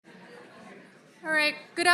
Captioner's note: group chatter